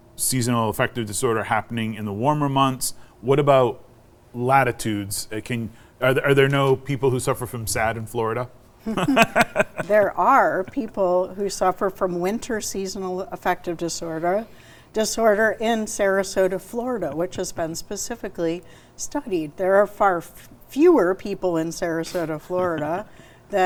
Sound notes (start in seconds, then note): 8.8 chuckles; 8.9 laughs